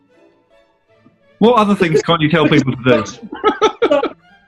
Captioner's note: giggles